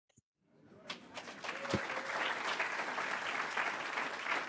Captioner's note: audience clapping